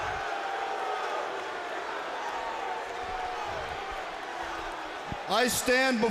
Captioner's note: crowd cheering